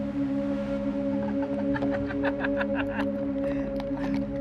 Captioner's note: snicker